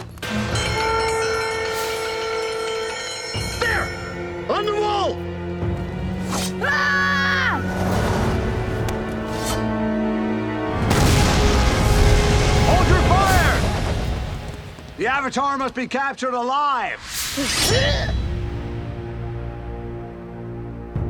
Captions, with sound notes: [alarm blaring] There! On the wall! [screaming] Hold your fire! The Avatar must be captured alive.